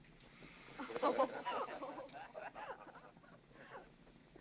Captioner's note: women giggling